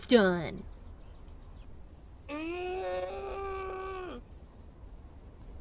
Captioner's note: lets out a mild screech of pain